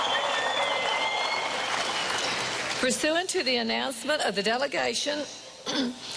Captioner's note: cheering and applause